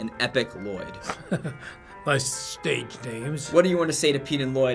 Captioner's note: laughs